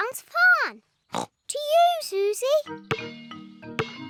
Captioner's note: snorts